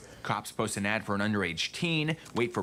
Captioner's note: none